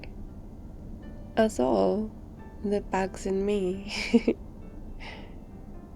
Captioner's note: laughs